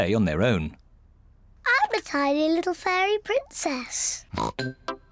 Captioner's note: snorting; snorts